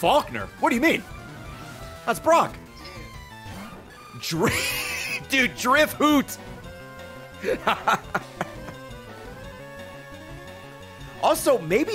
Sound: laughs

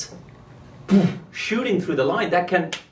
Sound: blowing air forcefully

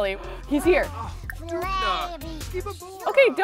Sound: gasps

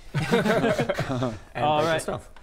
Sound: cocky laughter

